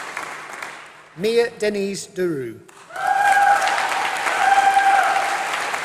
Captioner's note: applause